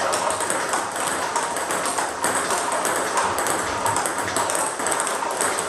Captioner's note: ball ping pong hitting continues